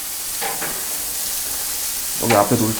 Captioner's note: blowing